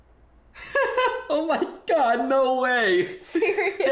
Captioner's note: both laughing